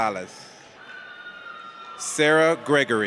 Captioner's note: audience cheers